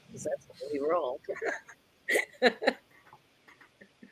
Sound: laughing

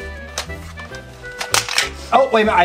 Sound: toy clicks

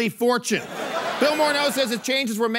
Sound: laughter

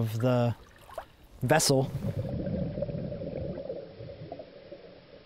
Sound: bubbling

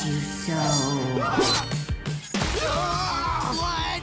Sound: screaming

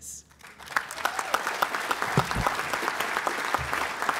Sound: applause

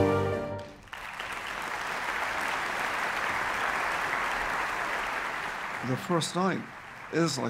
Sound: orchestra playing; clapping

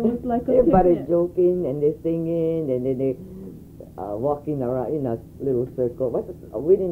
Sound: laughs

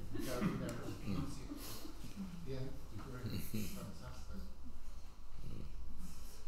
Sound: laughs; speaks faintly

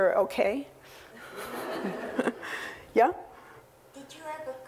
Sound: laugh

